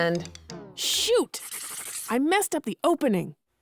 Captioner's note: scribbling